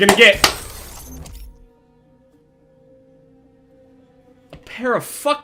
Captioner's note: stunned silence